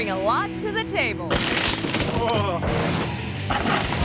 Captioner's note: man grunting; tables clattering; man grunting; tables clattering